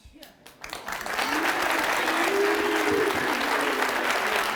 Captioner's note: audience clapping